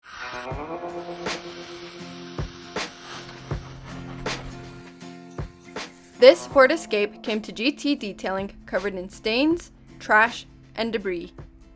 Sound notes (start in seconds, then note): 0.0 vacuum hums; 1.8 water hisses